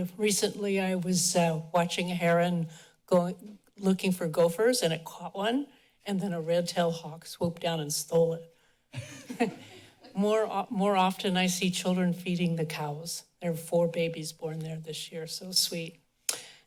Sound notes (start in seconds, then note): 9.0 laughs